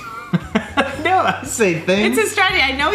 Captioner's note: laughing